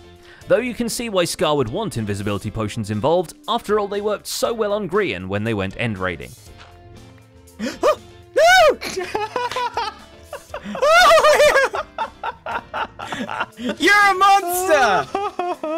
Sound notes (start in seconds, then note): 7.6 gasps; 9.8 snorting laughter; 10.3 startled laughter